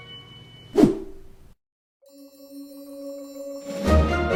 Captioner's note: screen wipe whooshes; joyful music